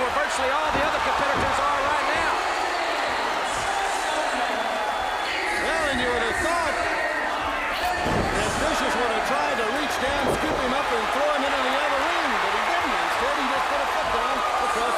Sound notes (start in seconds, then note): 3.0 crowd chatter; 5.8 crowd cheering